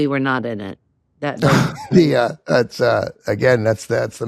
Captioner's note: chuckles